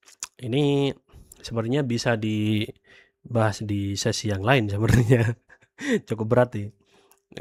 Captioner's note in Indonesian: tertawa